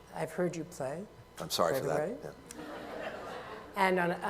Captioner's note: laughter